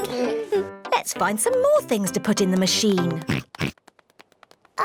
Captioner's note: oinks